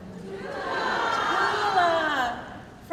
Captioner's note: crowd